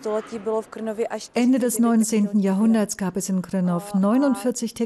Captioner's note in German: tschechisch